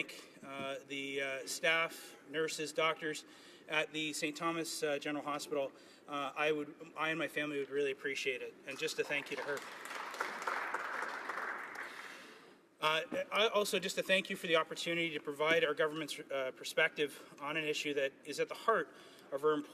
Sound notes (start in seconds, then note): 12.2 some Applause